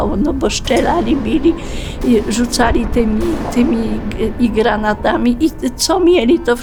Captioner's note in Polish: kobiecy głos